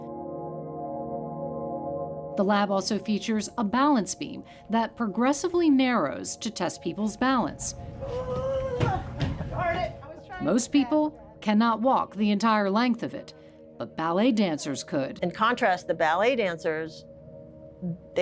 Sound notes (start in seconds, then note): 0.3 ethereal music; 7.8 groans